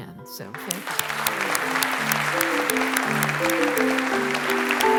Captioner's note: applause